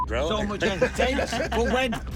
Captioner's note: laughter